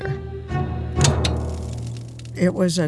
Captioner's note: knob clicking; dramatic music